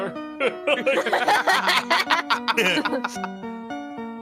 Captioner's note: all laughing